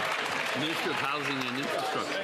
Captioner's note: applause